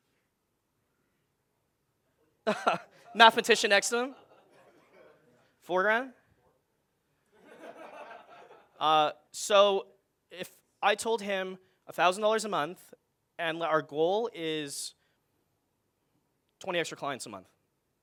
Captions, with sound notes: (laughing loudly) Mathematician asking, 400 and? (audience laughing) So if I told him, $1,000 a month and our goal is 20 extra clients a month.